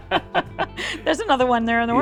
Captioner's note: both laugh